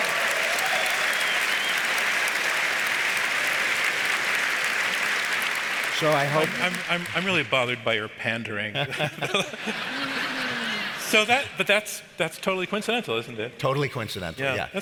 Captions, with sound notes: (audience applauds) So I hope-- - I'm really bothered by your pandering. (audience laughs) But that's, that's totally coincidental, isn't it? - Totally coincidental, yeah.